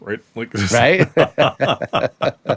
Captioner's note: laugh